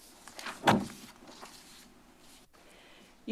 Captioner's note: rustles